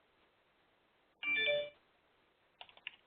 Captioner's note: sound of text alert